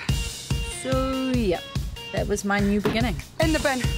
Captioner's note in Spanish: Voice over